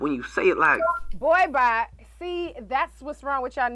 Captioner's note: soundboard beeps